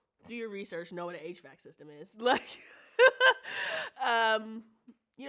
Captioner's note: laughs